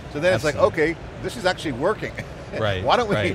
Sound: chuckles

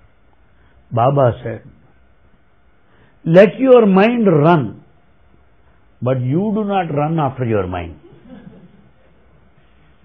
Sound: laughter

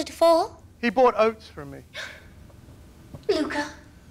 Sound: gasps

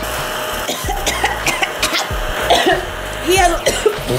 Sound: coughs

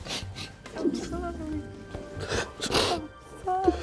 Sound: crying and sniffling

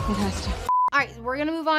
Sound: TV beeps

